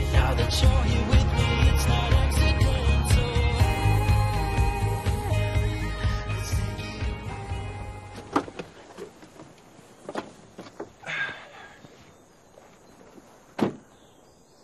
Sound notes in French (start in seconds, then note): 7.4 music fades; 9.8 birds chirping